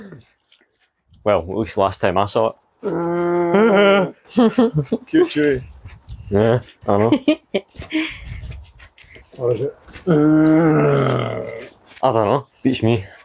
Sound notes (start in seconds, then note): 2.8 Chewy growl; 4.2 laughter; 10.0 Chewy Growl 2